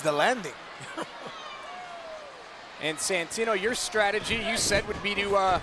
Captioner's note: laugh